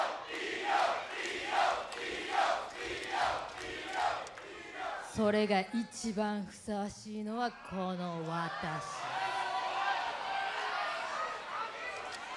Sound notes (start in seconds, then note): 0.0 crowd chants; 5.2 speaks in Japanese; 8.4 crowd exclaims